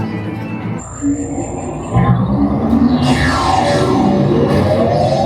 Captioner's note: bright music; electronic whooshing